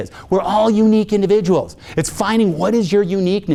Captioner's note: none